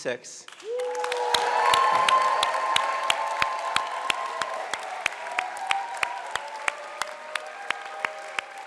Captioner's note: cheering and music